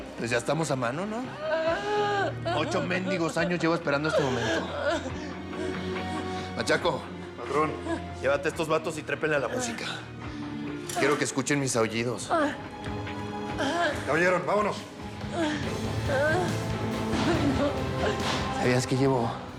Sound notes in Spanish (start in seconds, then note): 7.3 sollozos; 15.2 sollozos